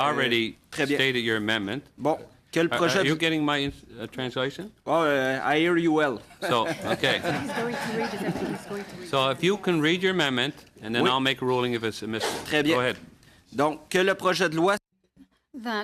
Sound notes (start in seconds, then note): 9.2 laughter